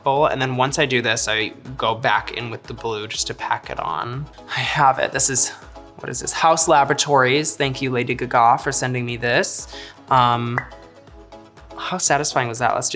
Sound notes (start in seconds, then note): 10.5 cap pops